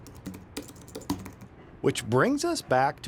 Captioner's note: keyboard clanking